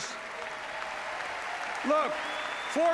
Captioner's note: applause